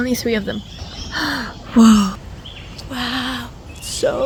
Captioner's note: le gasp